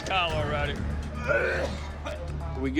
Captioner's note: gagging